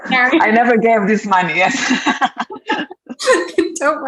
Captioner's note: laughs